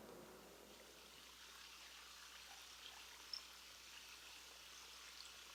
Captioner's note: rushing water noise